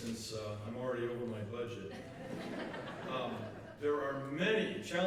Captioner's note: laughter